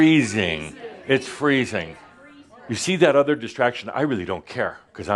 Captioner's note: audience agrees